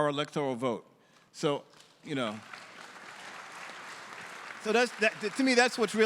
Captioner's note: audience applauding